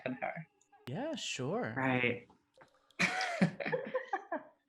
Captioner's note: laughs